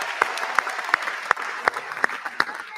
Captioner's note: applause